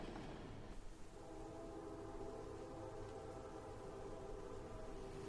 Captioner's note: train whistling